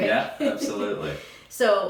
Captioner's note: laughs